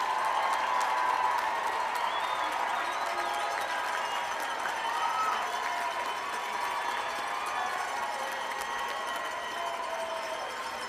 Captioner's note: cheers and applause